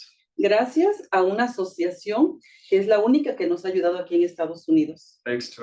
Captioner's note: speaking Spanish